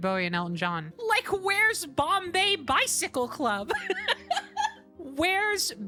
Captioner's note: laughter